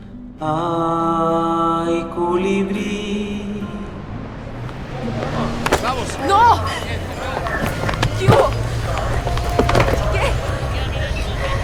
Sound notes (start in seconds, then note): 7.0 city noises, footsteps running away; 11.2 labored breathing